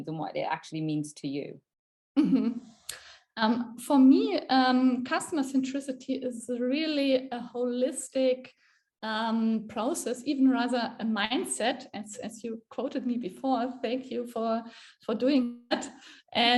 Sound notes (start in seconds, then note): 2.2 chuckles